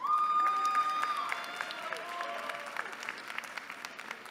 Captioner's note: cheering